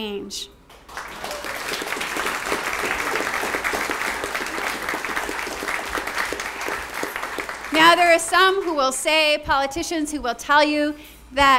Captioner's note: applause